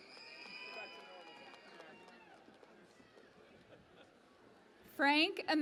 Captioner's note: cheering and Applause